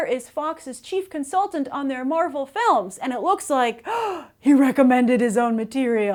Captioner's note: gasp